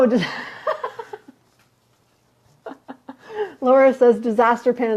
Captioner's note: laughing